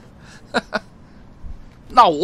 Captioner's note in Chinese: 大笑